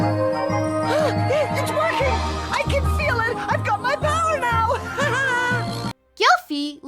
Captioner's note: gasps; laughs